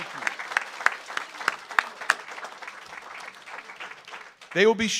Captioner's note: audience applauds